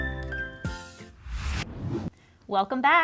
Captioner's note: text whooshes